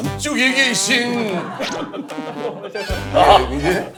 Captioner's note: snicker